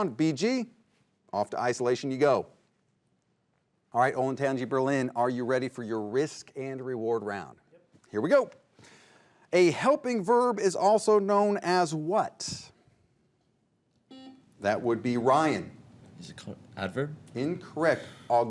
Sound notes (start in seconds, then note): 13.9 buzzer buzzes